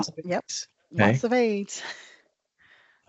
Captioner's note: brief laughter